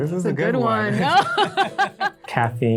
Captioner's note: both laugh